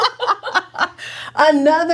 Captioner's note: laughing